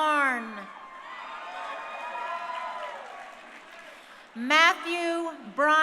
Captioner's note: crowd cheering